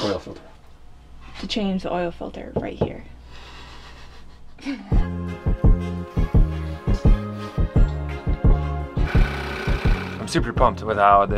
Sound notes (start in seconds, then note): 3.6 laughing; 4.9 mellow chime music; 9.0 wood saw humming